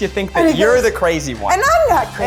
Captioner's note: jabbers